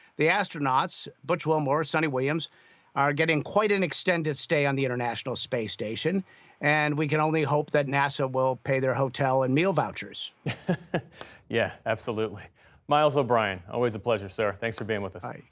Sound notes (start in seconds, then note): 10.4 laughter